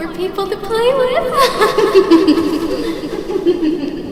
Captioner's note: giggling